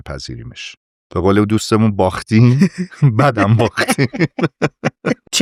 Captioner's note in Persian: خنده